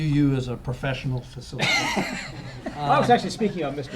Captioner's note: laughter